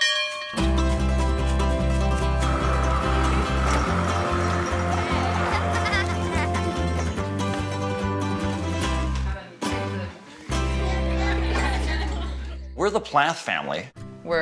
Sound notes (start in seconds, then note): 0.0 bell ringing; 0.9 energetic music; 5.2 laughs